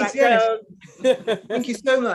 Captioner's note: woman chuckling